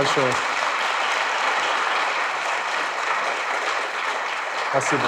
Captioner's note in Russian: аплодисменты